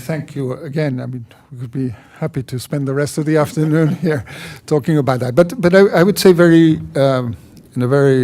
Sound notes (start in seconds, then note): 3.6 laughter